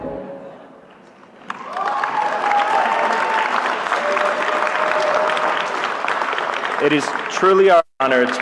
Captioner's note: applause